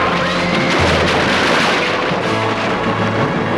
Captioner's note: horse neighing